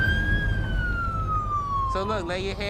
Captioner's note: siren wails